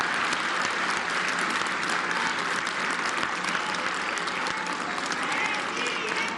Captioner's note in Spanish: aplausos